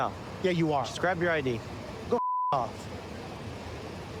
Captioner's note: beep